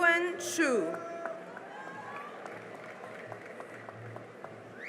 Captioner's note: cheering and applause